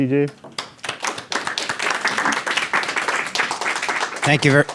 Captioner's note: audience clapping